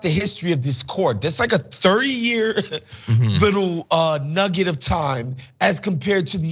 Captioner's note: laugh